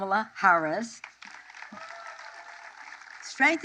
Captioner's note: applause